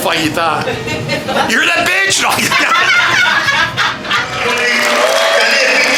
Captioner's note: laughter